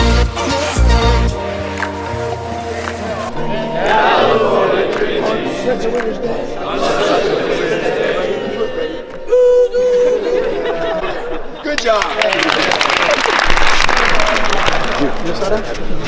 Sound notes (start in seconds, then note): 11.7 crowd claps